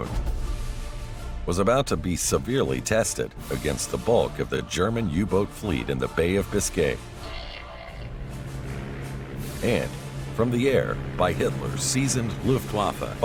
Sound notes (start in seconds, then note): 8.1 airplane engine roaring